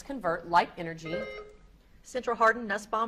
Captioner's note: beep buzzing